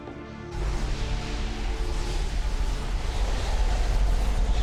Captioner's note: wind blowing